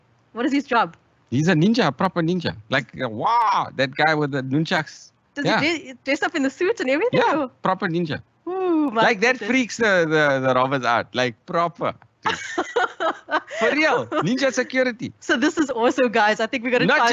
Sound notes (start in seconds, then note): 12.2 bursts out laughing